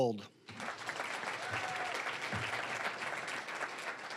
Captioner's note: cheering, applause; applause